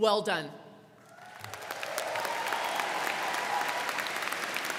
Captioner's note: crowd clapping